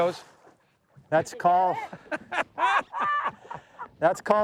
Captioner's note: anglers laughing